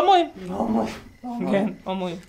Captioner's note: giggles